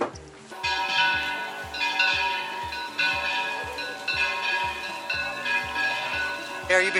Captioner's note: church bells ringing